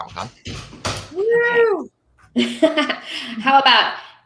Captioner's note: laughing